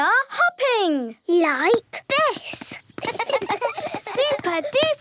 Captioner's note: laughs